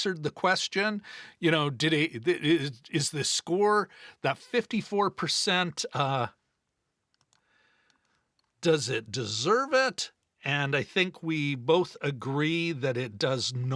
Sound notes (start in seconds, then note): none